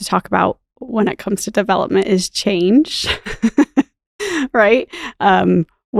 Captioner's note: chuckles